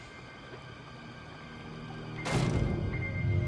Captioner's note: bangs